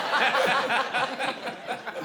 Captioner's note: laughter